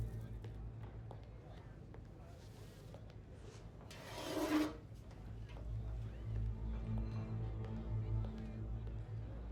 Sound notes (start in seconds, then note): 4.1 tray scraping